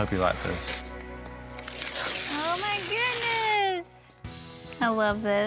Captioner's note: tearing wrapper off